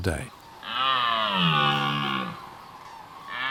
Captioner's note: deer roars